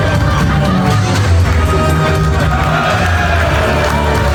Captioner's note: speaks quietly